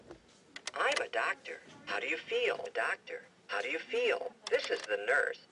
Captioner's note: click; click